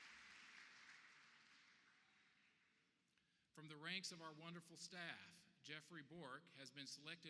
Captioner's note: applause